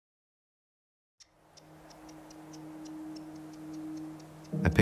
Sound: bird chirping

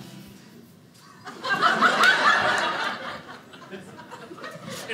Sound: audience laughing

